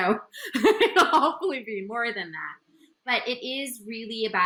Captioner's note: laughs